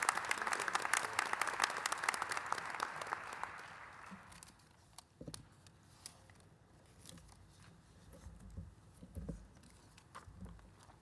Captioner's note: applause